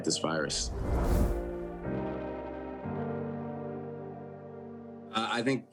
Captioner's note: pensive instrumental music; image whooshing